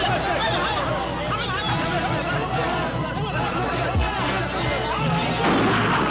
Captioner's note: group shouting; tense orchestral music; gunshot cracking